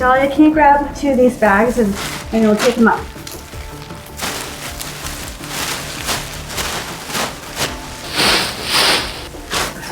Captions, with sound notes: Dalia, can you grab two of these bags and we'll pick him up. (bags ruffling)